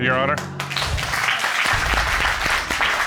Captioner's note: applause